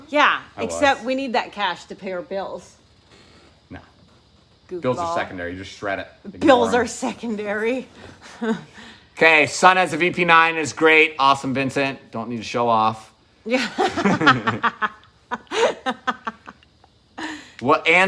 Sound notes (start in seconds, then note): 8.3 chuckling; 13.5 laughing